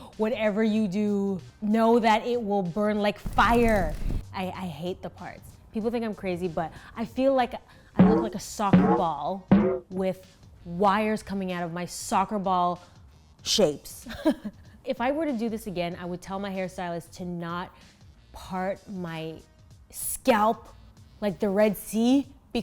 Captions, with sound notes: Whatever you do know that it will burn like fire. I hate the part. People think I'm crazy but I feel like I look like a soccer ball (ball bounces) with wires coming out of my soccer ball shapes. (laughs) If I were to do this again I would tell my hairstylist to not part my scalp like the Red Sea.